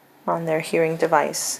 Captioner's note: none